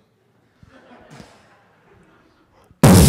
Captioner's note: laughter